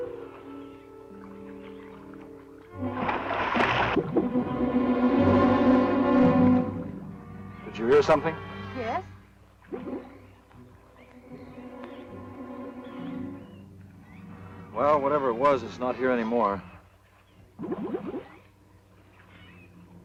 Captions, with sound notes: (splash) (suspenseful music) - Did you hear something? - Yes. - Well whatever it was, it's not here anymore. (bubbling)